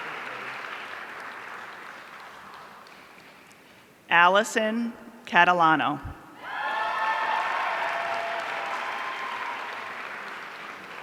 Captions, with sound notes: Allison Catalano. (audience cheering)